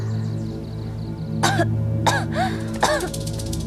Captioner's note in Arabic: سعال، سعال، سعال